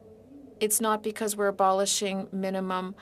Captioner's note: speaking in French